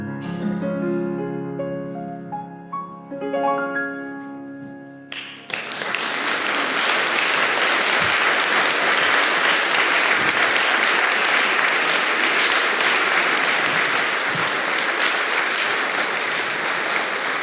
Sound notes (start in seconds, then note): 5.1 applause